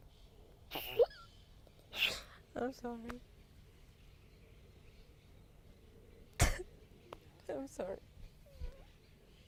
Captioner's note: crying